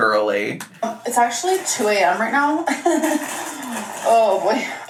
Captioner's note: laughs